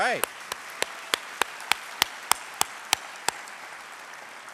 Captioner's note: applause